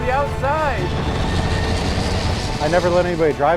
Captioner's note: truck engine roaring